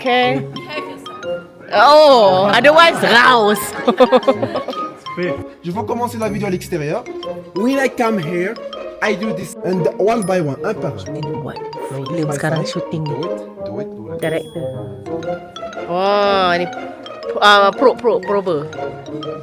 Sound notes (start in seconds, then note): 0.3 speaking German; 5.7 speaking French